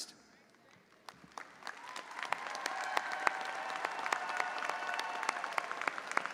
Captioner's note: audience applauding and cheering